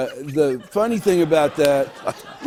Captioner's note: laughter